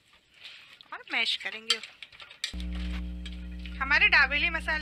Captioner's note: mashing